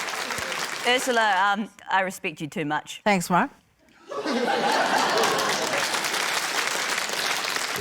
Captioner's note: laughter, applause